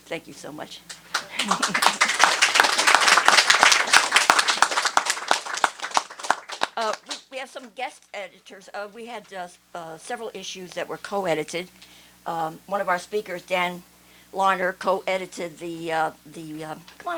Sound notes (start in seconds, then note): 0.9 applause